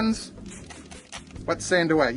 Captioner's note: spray whooshing